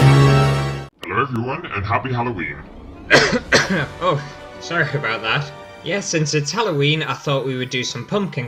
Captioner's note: halloween Music; cough